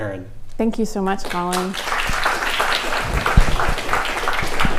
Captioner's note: clapping